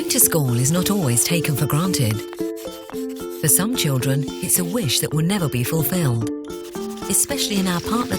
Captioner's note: writing sounds